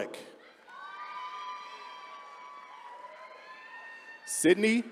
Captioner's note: attendees cheering